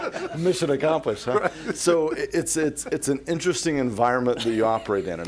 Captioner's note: laughter